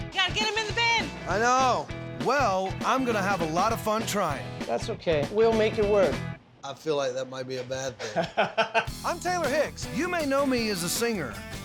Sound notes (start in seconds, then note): 7.9 laughs